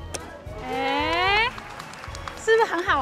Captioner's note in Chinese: 鼓掌鼓掌鼓掌